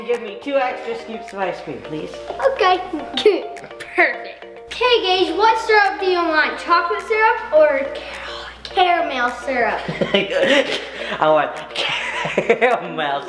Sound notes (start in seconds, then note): 9.8 laughing